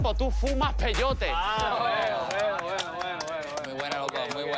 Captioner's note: applause